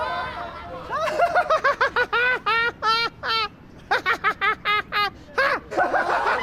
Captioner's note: people laughing continuously